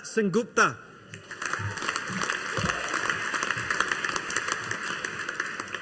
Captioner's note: audience applauding